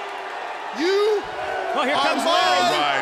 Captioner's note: crowd cheering